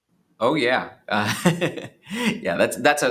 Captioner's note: chuckles